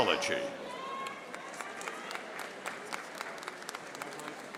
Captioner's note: audience applauding